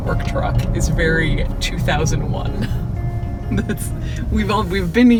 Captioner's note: traffic roaring; giggles